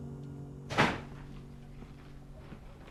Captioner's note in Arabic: إغلاق الباب